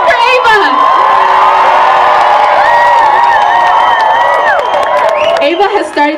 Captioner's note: applause